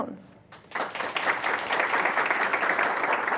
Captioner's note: audience applauds